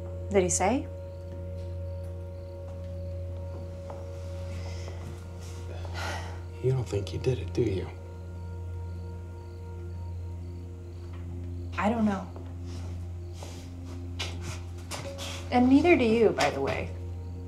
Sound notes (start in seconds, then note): 1.1 crickets chirping; 1.1 tense music; 8.7 crickets chirping; 8.7 tense music